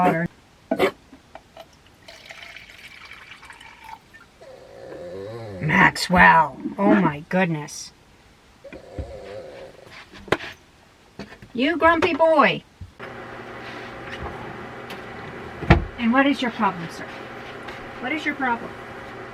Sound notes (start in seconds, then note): 0.1 bark; 4.4 grrrrrr; 8.6 grrrrrr